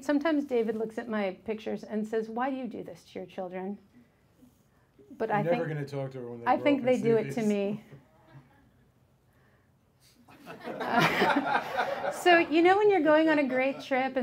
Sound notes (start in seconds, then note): 8.7 woman chuckled; 10.4 audience laughs